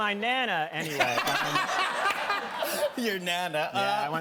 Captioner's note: laughter